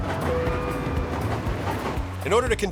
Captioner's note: rattling, alert chimes